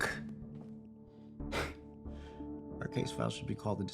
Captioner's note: Kenny scoffs